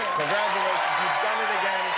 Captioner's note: cheers and applause